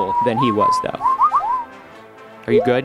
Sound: electronic whistling

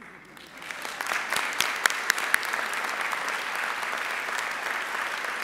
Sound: audience applauding

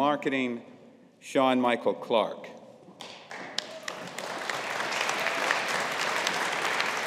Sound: audience applauding

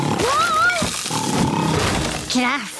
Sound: snoring

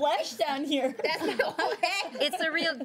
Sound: girls laughing

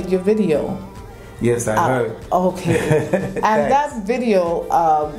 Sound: laugh

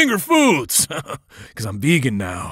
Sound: laughs

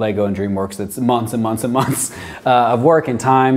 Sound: chuckles

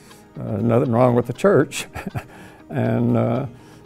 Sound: laughing

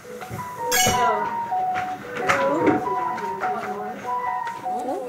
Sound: an alarm suddenly rings in the dorm

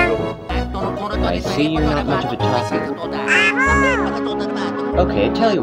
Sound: exclaims

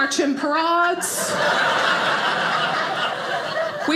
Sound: audience laughing

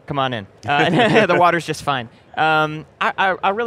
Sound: laughs

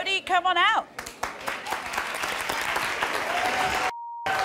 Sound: applause

